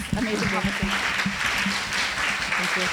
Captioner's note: audience applauds